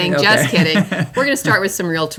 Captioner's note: laughs